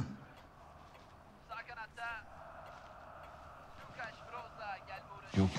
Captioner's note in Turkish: Televizyon spiker sesi